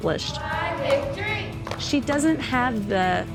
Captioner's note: cheerleaders chanting, clapping